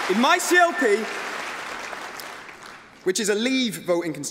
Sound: applause

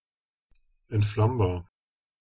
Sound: fast Pronunciation

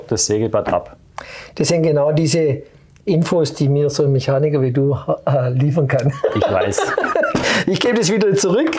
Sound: laughs

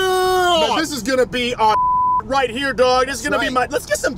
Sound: beeps

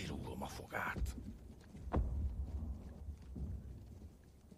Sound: distant booming

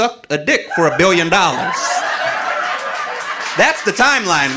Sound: audience laughing

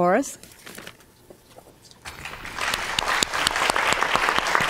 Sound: audience applauds

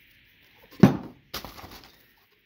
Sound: slams can down

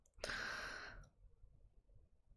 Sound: breathes

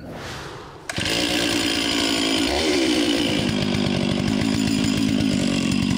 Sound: chainsaw starts

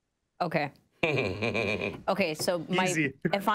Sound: laughing gently

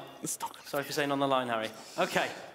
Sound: whispering

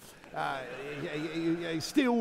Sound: audience laughing

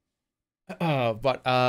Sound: clears throat

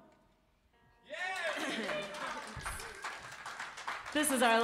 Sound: cheers and applause

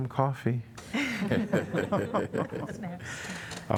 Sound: laughter

